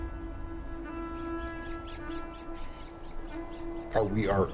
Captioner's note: bird chatters